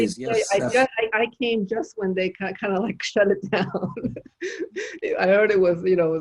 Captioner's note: chuckles